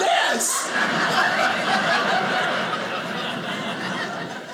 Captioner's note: audience laughing